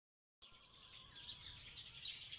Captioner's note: birds chirping